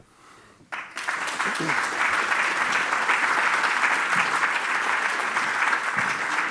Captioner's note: applause